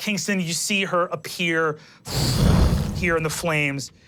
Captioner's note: whoosh